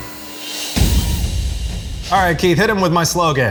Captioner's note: thump